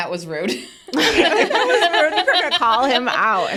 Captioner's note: participants laughing